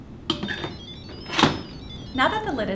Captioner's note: cooker beeps musically